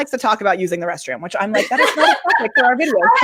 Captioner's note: laughs